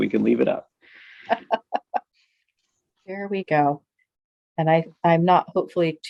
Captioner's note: laughs